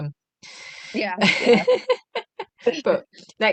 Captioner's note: laughter